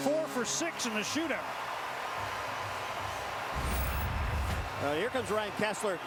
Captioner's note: cheers, applause